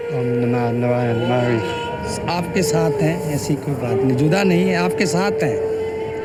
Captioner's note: speaking in foreign language